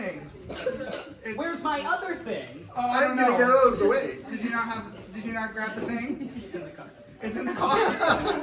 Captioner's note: laughs